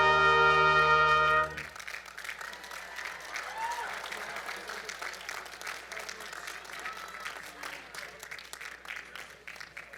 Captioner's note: applause